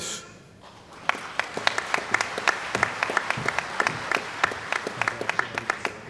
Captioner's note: applause